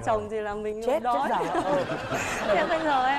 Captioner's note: laughing